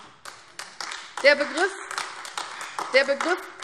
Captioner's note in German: Beifall AfD